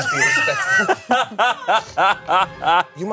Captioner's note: everyone laughs